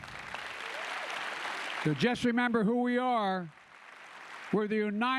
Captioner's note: applause